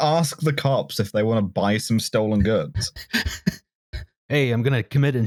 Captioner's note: laughs